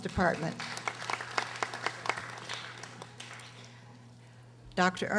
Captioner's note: audience applauding